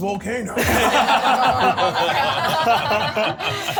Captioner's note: laughs